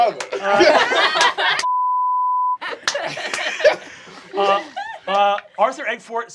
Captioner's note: cast laughing; beeping